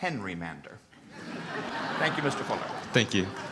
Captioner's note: laughter